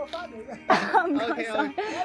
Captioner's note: laughing